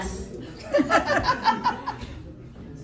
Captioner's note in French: rires